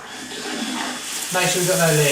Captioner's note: water running